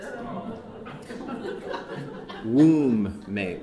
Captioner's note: audience chuckling